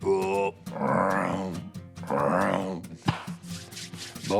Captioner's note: Phil imitating frogs